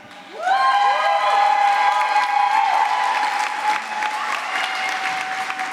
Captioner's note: applause